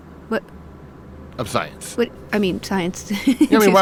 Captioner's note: laughs